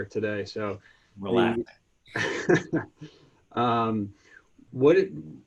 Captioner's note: laughter